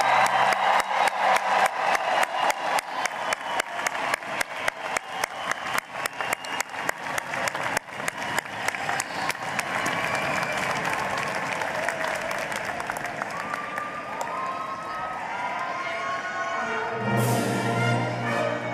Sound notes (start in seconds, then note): 6.5 cheering and applause